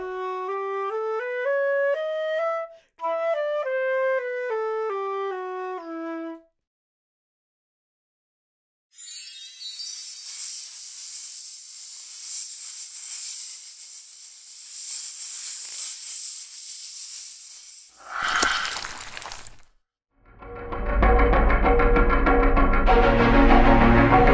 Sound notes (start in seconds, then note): 0.0 playing the flute; 10.0 the hissing of snakes; 17.9 spell sound; 21.1 dramatic music